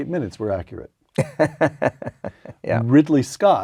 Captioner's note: laugh